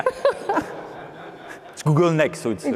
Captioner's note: laughter